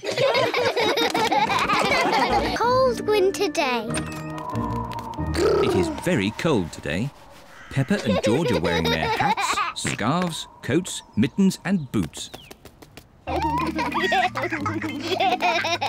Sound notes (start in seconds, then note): 0.0 all laughing; 4.4 wind whistles; 13.3 both giggle